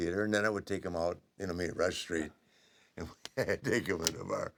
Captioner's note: laugh